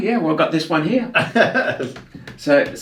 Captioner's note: laughs